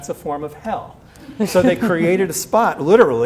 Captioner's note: laughter